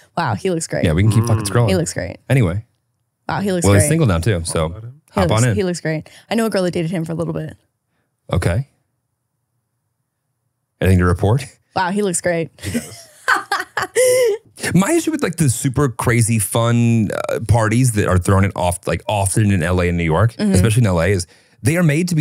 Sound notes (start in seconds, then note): 12.6 laughs